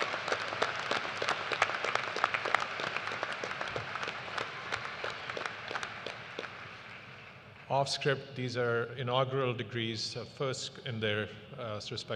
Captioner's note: cheers and applause